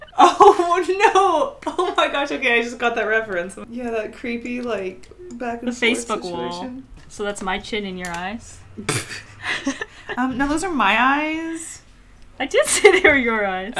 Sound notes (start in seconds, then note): 8.8 laughs